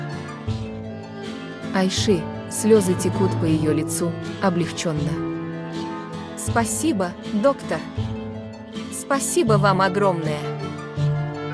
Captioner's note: tears streaming down her face, relieved